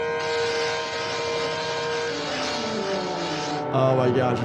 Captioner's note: can spraying